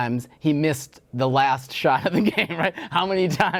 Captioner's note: laughs